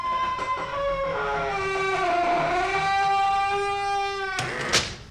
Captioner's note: door creaking